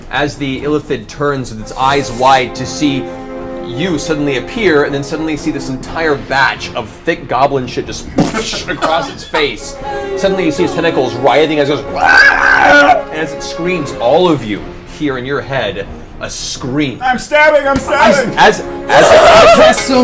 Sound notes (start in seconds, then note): 8.3 splashes